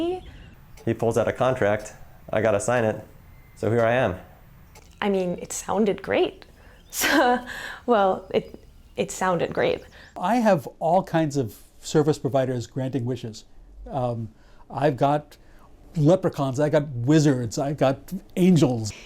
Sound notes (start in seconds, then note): 6.7 laughs